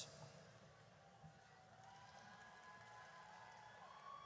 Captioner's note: audience cheers